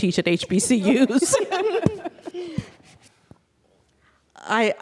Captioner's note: laughs